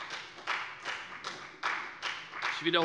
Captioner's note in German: Beifall bei der FDP